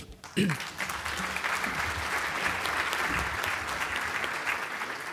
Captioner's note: audience applause